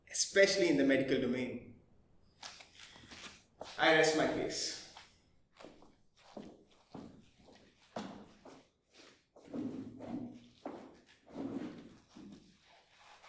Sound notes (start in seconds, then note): 6.0 courtroom falls quiet